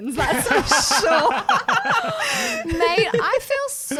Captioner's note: laughing together